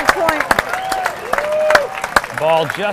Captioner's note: audience applause